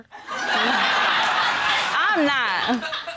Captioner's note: audience laughing